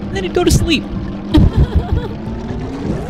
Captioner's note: laughter